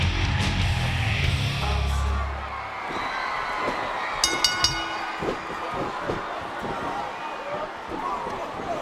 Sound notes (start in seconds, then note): 4.2 bell rings